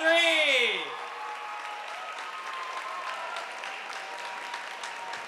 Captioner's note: audience applauding